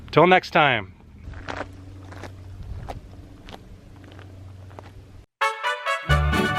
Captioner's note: footsteps fade